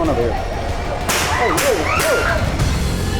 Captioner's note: gun fire; screams